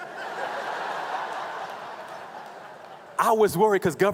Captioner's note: laughing